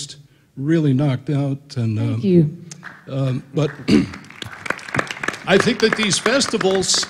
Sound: applause

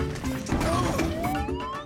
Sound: Tobor groaning

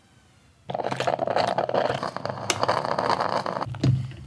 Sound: coffee brewing

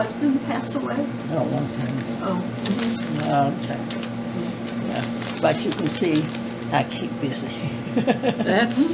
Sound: laughter

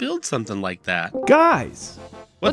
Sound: Discord call join SFX

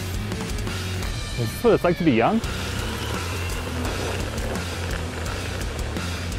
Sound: wheels rolling

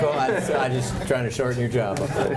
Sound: laughter

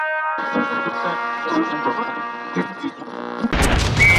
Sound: radio tuning

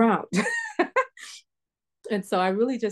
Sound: laughter

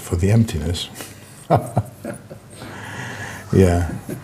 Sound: laughing

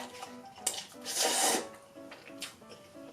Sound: slurps

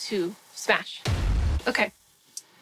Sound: thud

